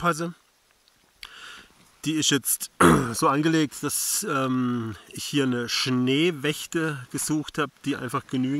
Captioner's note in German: coughs